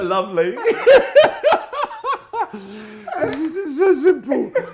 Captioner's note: laughing